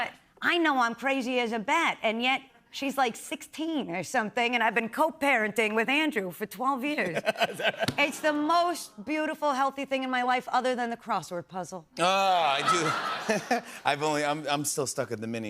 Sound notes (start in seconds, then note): 12.4 laughter